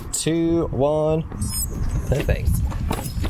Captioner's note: Garmin 'Activity Started' Noise